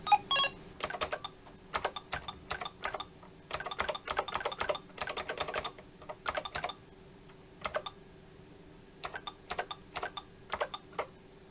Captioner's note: beeping